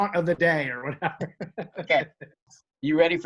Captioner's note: laughs